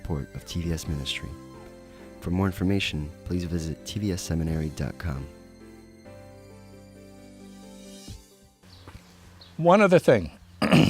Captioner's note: clears throat